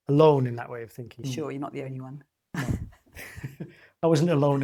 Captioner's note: laughs